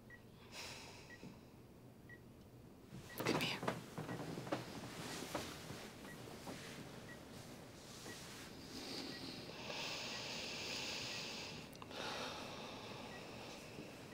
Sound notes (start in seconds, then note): 0.6 sighs; 8.7 both sighing over beeping monitors